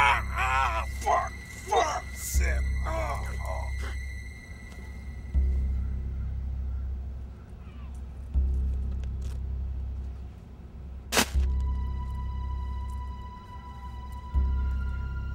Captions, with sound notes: - Fuck, fuck. Shit. (crinkles) (ominous music)